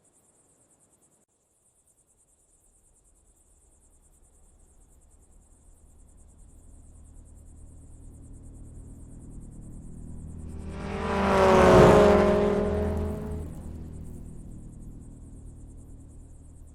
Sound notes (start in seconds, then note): 10.6 car engine rumbling